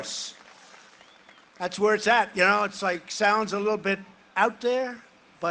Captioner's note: cheering and applause